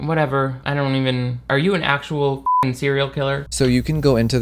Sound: beep

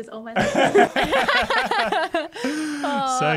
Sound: laugh

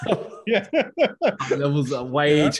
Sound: laughing

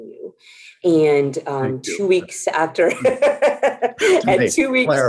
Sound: laughs

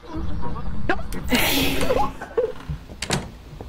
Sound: eerie Breathing, screams

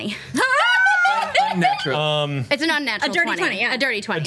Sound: cheers

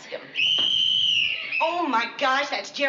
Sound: whistle blares

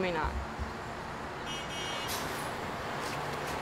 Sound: bus honk

